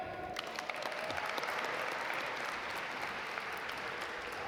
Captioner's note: audience applaud